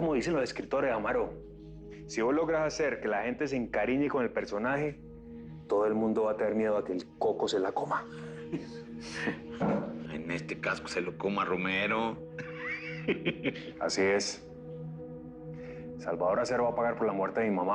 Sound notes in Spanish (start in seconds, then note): 12.3 Ríe